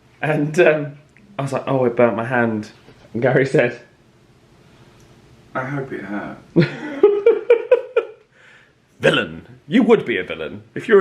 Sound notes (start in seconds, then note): 6.5 laughing